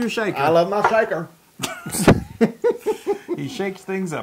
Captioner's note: laugh